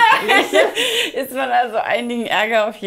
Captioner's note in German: Lautes Lachen